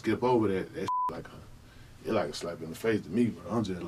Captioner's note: beep